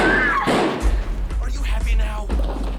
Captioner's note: screams